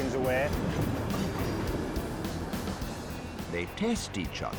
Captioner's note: train rumbling